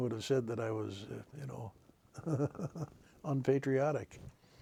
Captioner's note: chuckles